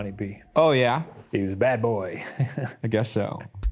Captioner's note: chuckles